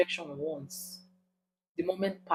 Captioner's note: paause